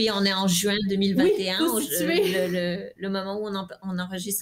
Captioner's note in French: rires